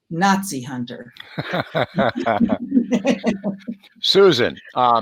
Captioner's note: all laughing